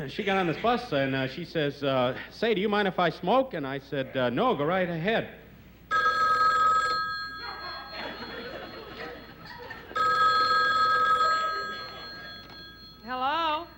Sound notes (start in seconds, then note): 5.9 telephone rings